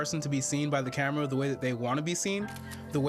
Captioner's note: camera shutter clicks